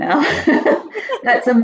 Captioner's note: laughs softly